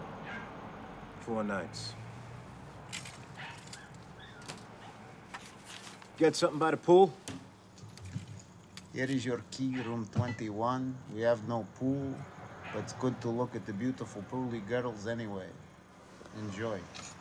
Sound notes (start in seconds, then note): 2.7 keys rattling; 3.3 dog barking